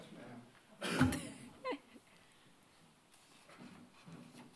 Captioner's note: laughing